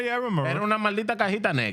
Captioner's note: speaking Foreign Language